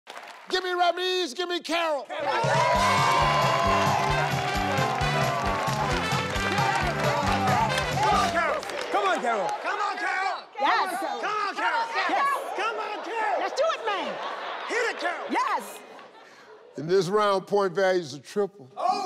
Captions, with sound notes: - Give me a Ramez give me Carol. (audience cheering) (upbeat music) - Come on Carol. - Come on Carol. - Come on Carol. - Lets do it man. Yes. - In this round point values are tripled.